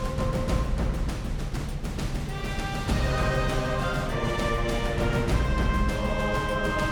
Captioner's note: train honks